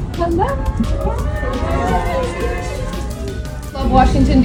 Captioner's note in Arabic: هتافات الجماهير